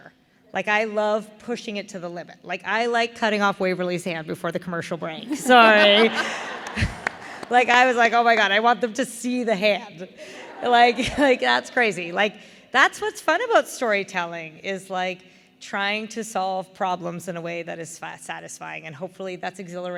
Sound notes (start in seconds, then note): 5.3 laughter